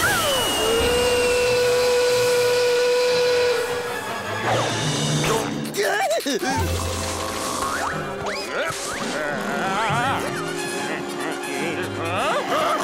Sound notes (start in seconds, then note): 0.0 whistling; 6.1 snoring; 9.0 grunting